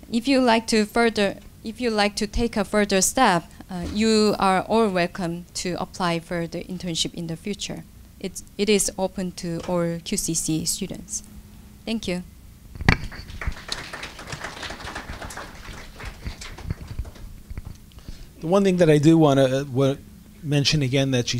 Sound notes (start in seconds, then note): 12.9 applause